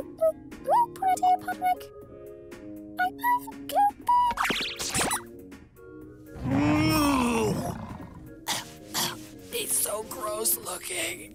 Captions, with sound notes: (gags) He's so gross-looking.